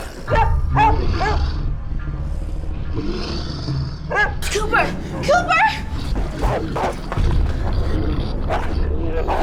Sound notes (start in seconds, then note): 0.3 cooper barks; 2.8 animal growling; 6.2 growing and snarling